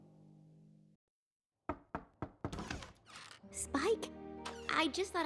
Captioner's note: knocking